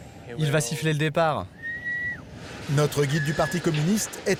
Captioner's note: speaking foreign language